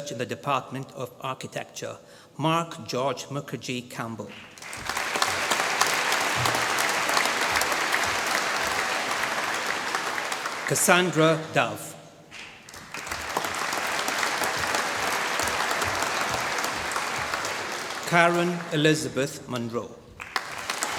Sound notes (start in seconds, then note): 4.3 applause